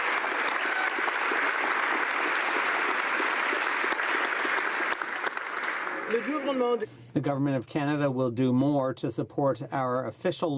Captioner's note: applause